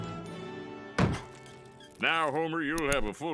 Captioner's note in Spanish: Ruedas crujiendo